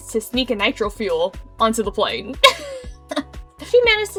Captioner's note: giggles